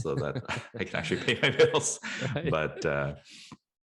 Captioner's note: laughing